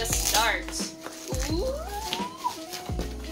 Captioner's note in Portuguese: gritinho animado